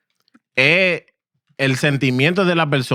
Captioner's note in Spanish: Hablando en idioma extranjero